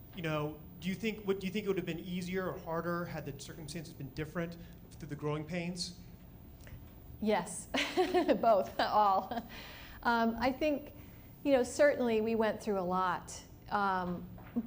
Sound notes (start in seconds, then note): 7.7 laughs